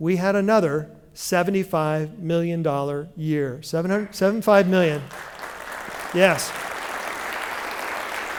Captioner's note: applause